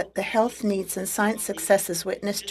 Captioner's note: speaking French